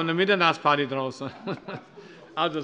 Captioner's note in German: Heiterkeit